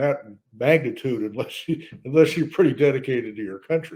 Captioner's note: laughs